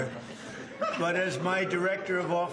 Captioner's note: laughter